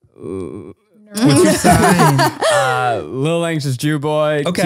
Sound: both laughing

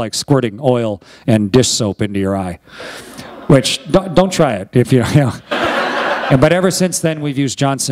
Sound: laughter

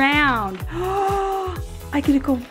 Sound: gasp

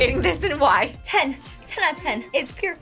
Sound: bell chimes

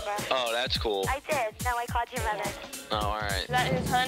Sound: girl over phone

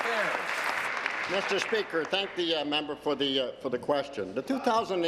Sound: applause

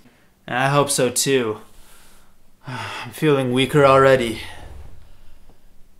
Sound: sigh

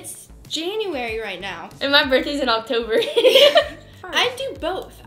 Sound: laughs

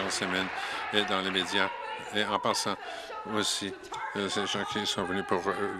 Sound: applause

